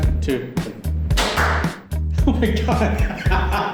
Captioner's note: clap, clap; laughs maniacally